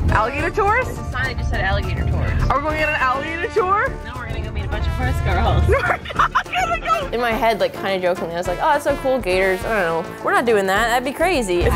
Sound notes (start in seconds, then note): 5.6 laughs